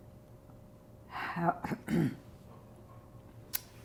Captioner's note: clears throat